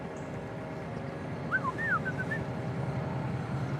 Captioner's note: mimics a bird call